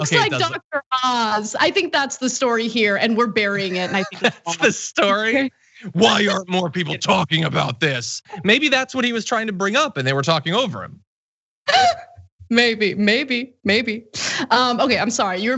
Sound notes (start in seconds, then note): 3.5 laugh; 11.6 laugh